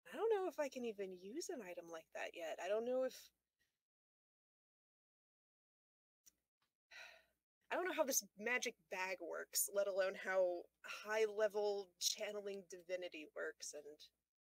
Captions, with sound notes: "I don't know if I can even use an item like that yet. I don't know if-" *sighs* "I don't know how this magic bag works, let alone how-" "High-level channeling divinity works....and..."